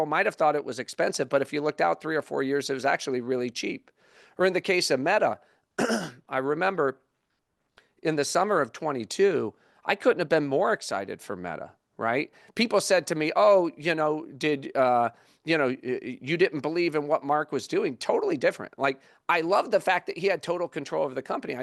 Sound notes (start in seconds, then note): 5.7 cough